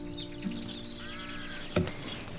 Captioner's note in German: Vogelgezwitscher